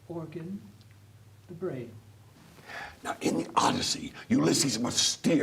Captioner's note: in a whisper